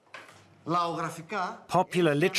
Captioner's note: speaking in foreign language